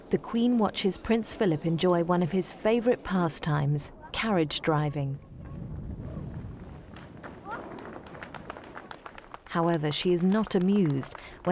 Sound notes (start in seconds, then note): 6.9 crowd applauding